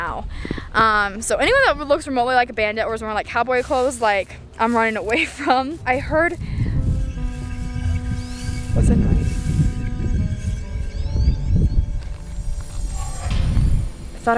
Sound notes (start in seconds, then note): 6.5 squawking; 7.3 ominous music; 10.6 ominous music